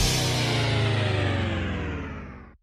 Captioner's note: tv powering down